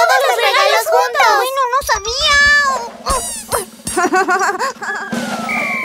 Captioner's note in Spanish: Risas